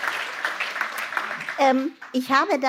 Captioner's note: applause